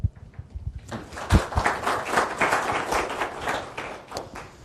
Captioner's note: audience applauding